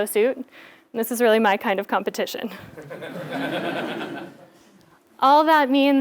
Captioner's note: laugh